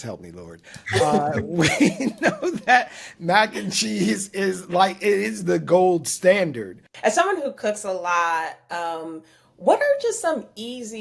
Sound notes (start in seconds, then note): 0.8 laughing